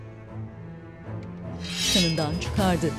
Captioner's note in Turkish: Kılıç çekme sesi